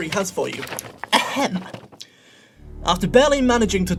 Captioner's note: paper rustling